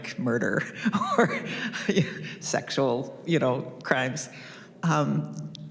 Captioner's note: chuckles